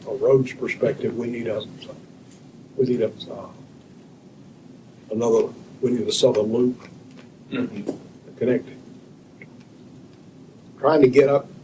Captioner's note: clears throat